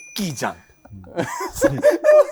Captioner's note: laughter